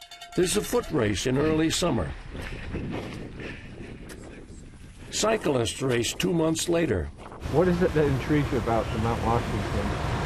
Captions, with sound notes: There's a foot race in early summer. (breathing deeply) Cyclist race two months later. - What is it that intrigues you about the Mount Washington?